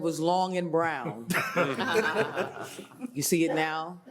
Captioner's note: panelists laughing